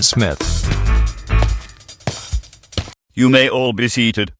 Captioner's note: footsteps